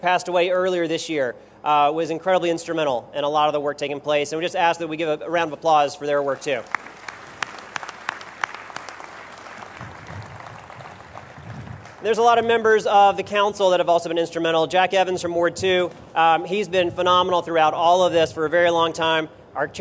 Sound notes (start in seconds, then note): 6.3 applause